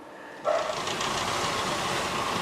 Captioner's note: rattling